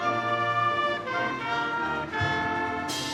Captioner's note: none